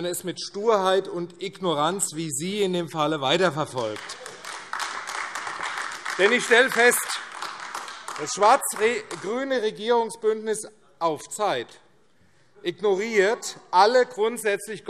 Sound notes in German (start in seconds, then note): 3.5 Beifall AfD